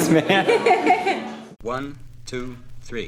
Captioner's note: laughing